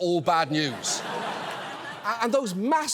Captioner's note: audience laughs